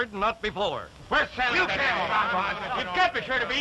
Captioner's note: crew clamoring